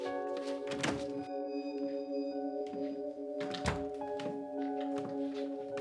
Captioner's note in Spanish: Ruido de la puerta